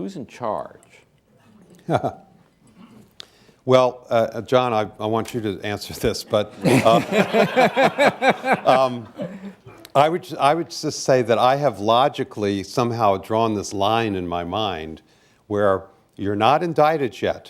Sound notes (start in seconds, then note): 6.1 laughter